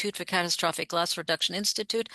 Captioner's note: speaking French